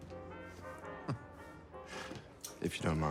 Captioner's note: Bjorn chuckles